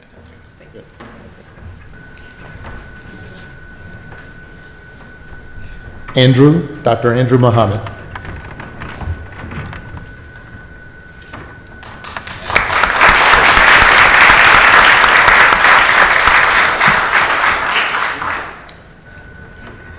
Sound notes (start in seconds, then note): 11.8 audience applauds